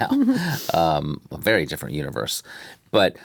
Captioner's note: chuckles